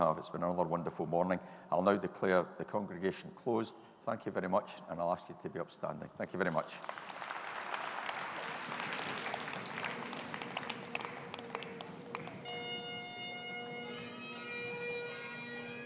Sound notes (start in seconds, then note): 6.5 audience applauding; 12.8 bagpipes playing